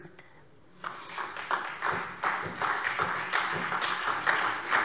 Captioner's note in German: Beifall SPD